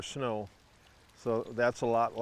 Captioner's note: water trickling